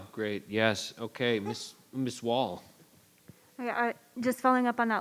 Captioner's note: woman laughs